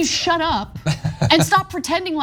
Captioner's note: laugh